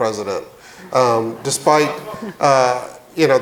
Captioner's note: audience murmuring